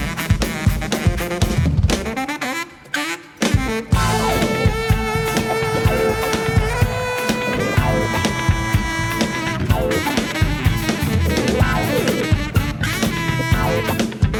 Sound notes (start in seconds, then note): 4.0 audience cheers; 4.2 saxophone solo; 11.3 lively band music